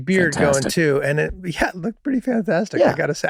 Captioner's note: Charlie laughing admirably